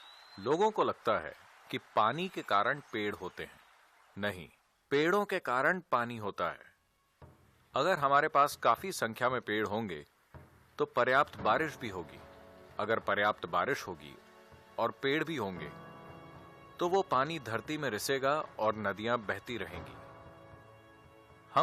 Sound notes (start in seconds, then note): 5.3 speaks in Gujarat – not transcribed; 10.4 speaks in Gujarati – not transcribed; 19.3 speaks in Gujarati – not transcribed